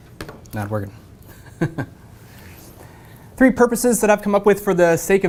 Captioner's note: laugh